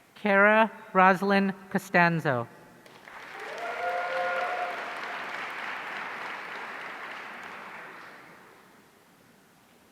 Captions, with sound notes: Cara Rozlyn Costanzo. (audience cheering)